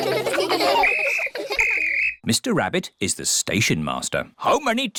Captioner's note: blows whistle